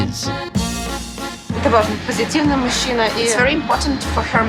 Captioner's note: speaks ukrainian